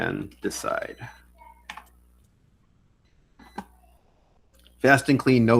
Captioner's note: phone ringing